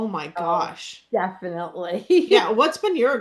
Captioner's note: laughs